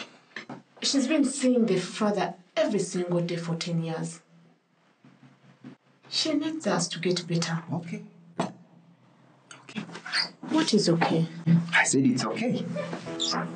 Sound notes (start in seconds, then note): none